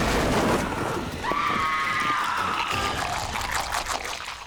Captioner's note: crushing bones